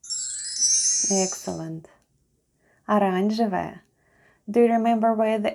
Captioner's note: chime sound